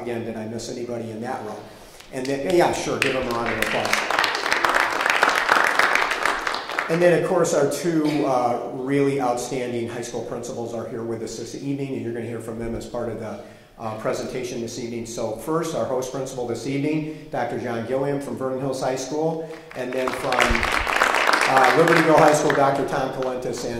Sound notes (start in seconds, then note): 4.9 audience clapping; 19.4 audience clapping